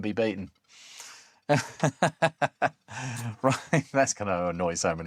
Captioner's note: laughs